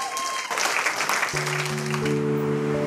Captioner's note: applause